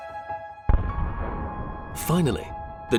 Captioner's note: تفجير